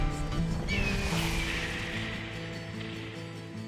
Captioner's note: hawk screeching